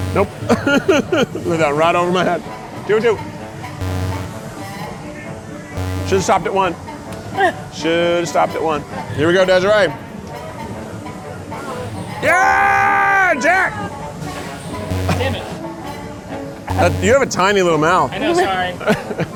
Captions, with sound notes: Nope. (laughs) Right over my head. Two for two. (buzzer trumpets) Should've stopped at one. Should've stopped at one. Here we go, Desiree. Yeah! Jack. (playful music) - Damn it! - You have a tiny little mouth. - I know, sorry.